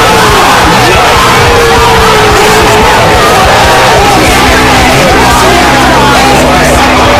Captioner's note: hype screaming